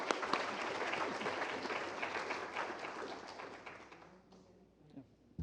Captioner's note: applause